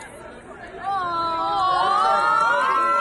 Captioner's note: crowd